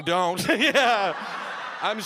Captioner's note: audience laughing